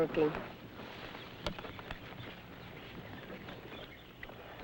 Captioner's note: birds chirping